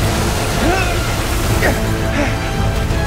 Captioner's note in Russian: Борьба